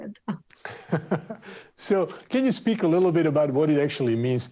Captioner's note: laughs